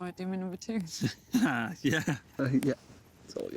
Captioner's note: laughing